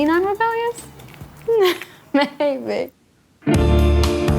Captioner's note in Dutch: Gelach